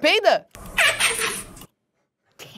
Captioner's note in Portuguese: slime faz som de peido; risadas